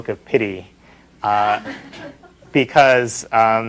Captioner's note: laughter